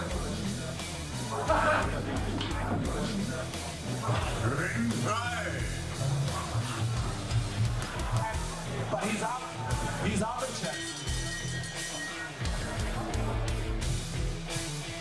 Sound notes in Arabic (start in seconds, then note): 10.6 يرن الجرس